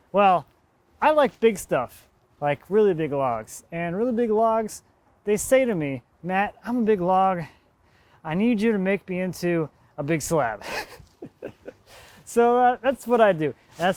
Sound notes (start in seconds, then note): 10.6 chuckling